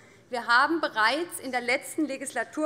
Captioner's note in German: none